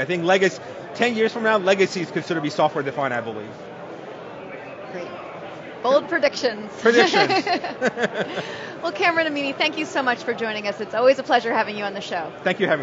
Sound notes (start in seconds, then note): 6.9 laughs